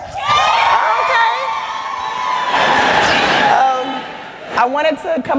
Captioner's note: cheering